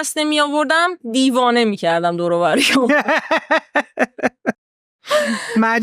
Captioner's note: laughs